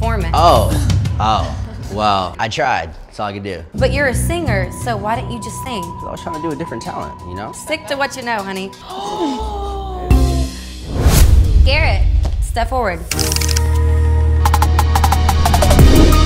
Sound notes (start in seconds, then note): 8.9 gasps; 13.2 energetic music